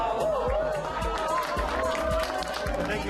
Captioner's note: cheers and applause